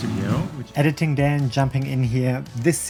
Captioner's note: voiceover